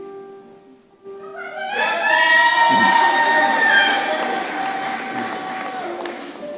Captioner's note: shouting and applause